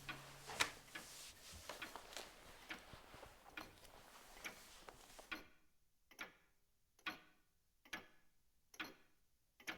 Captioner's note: clock ticking